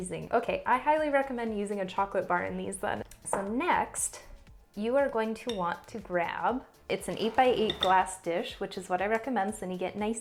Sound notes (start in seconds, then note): none